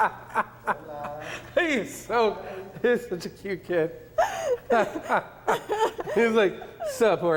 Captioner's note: laughs